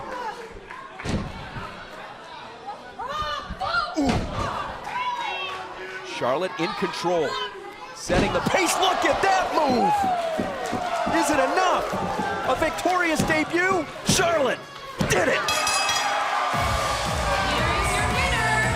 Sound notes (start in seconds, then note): 15.4 bell ringing; 17.4 crowd cheering